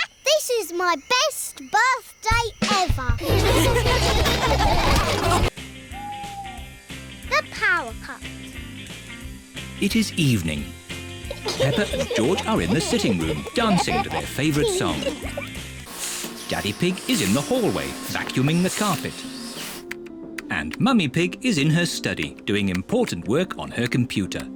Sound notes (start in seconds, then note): 3.2 all laughing